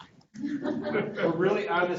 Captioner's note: group laughing